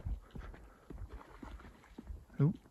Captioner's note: bird wings flapping, water sloshing